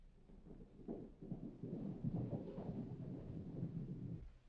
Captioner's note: horses cantering